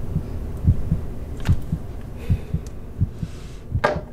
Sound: heart beating

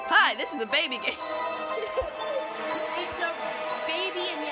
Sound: laughter from both of us

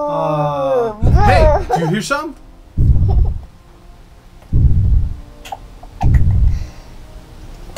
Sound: booming footsteps

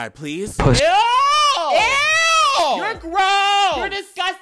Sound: man yelling

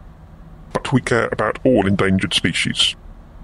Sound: none

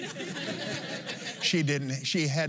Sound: laughs

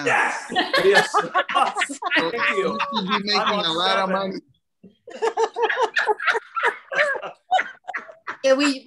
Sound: laugter

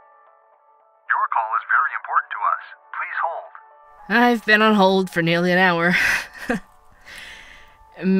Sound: laughs

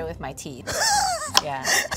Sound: laughs

